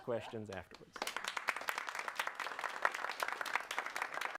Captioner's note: audience claps